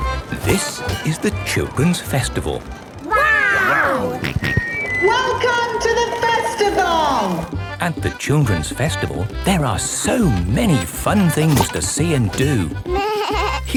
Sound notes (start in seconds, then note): 4.2 on microphone; 6.4 jolly folk music